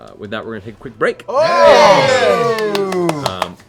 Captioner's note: cheering